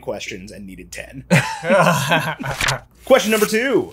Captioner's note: all laugh